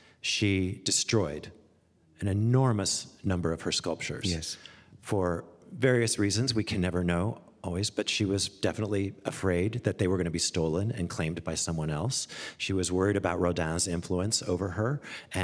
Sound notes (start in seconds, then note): none